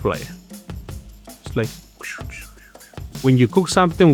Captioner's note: imitates swooshing